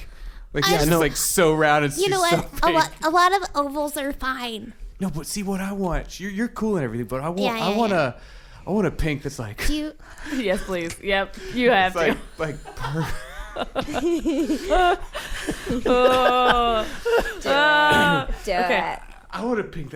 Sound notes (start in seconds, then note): 0.6 laughing; 12.4 breaks down laughing; 12.6 trying not to laugh; 15.5 someone laughing in the background; 19.1 giggling